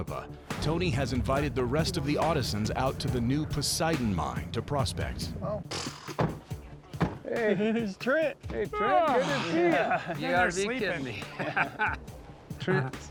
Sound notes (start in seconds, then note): 7.2 doors closing; 11.0 laughter